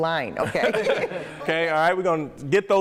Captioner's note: laughing